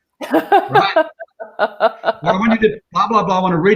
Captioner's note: laughing